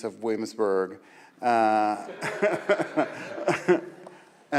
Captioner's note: audience laughs